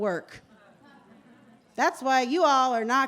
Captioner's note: laughter